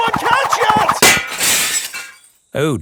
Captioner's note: shatters